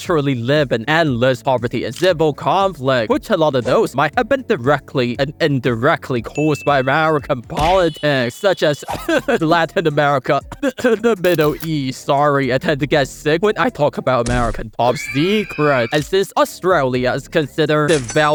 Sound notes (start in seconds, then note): 8.8 cough